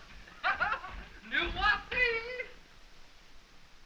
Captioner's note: speaking french